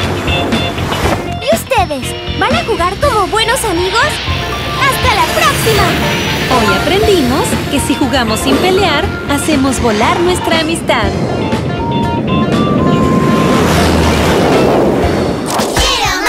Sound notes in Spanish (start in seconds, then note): 0.0 Sonido de avión; 11.4 Sonido de avión